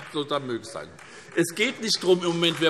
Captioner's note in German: Beifall SPD